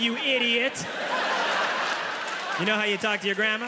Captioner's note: audience laughs; audience applauding